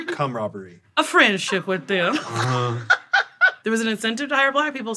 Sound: laughs

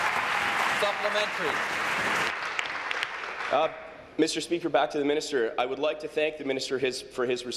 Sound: applause

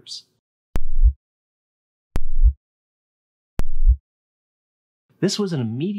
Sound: three replays of short thumping sound

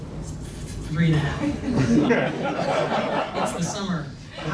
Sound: laughing

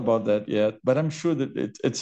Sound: laughs

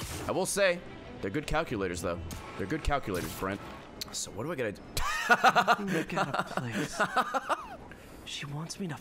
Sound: laughs

